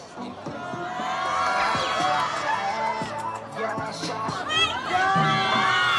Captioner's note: students continue to cheer for him